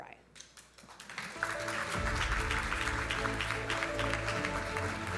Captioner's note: audience applauding